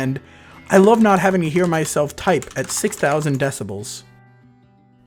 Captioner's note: with loud typing in background